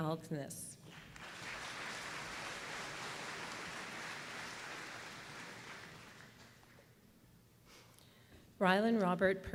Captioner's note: applause